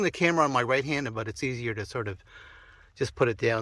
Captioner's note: sigh